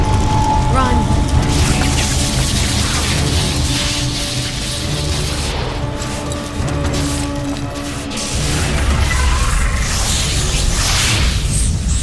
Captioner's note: electrical noises